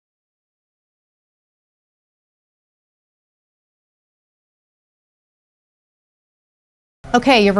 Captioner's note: silence